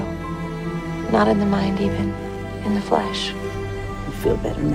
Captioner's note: voiceover